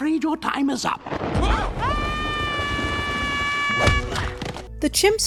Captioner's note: Ham and Luna scream